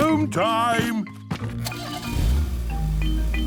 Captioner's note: engine starting